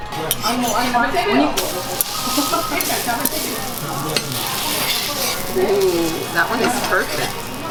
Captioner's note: sizzling and grill sounds